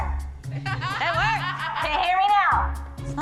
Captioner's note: laughter